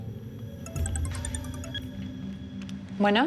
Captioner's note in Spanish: suena el celular